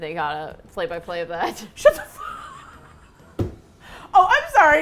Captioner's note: laughing; both laugh